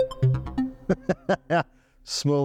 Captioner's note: laughs